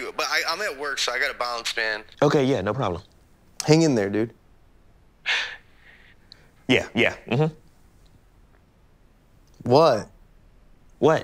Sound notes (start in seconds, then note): 5.2 sighing